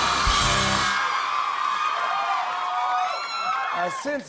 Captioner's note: cheers and applause continue